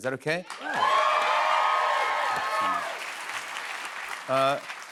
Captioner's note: cheers and applause